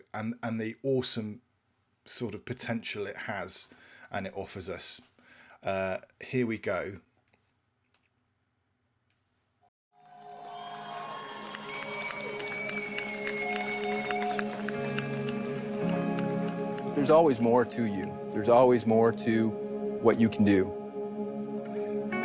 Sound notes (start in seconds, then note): 10.0 audience cheering; 14.9 gentle music